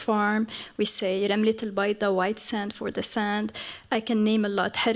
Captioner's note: non-english; non-english